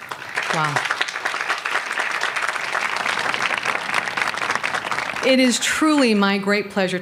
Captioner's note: applause